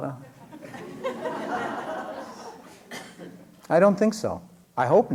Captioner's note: laughter